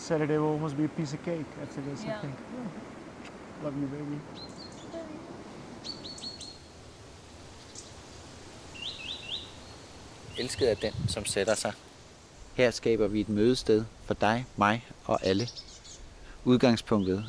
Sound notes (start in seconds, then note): 5.7 birds chirping; 10.4 speaks in Danish